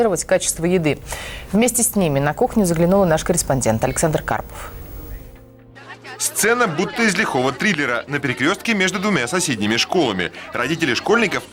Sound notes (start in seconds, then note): 4.2 crowd arguing